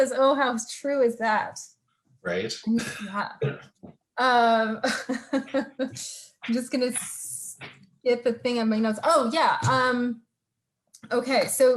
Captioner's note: laughs